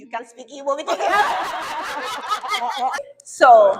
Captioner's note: laughs loudly